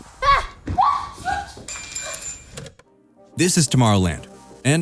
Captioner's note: scream